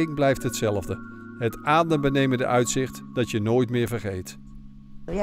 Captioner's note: voiceover